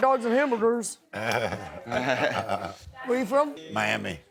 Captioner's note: laughs